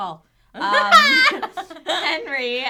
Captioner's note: laughing